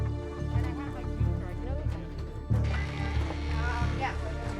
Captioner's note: chatter